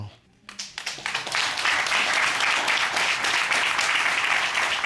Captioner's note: applause